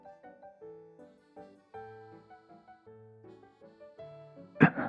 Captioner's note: slap